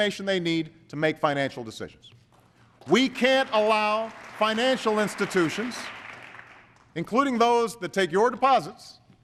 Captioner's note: applause